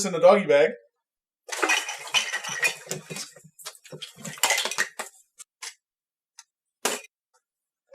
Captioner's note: food clatters